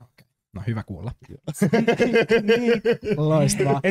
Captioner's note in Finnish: nauraa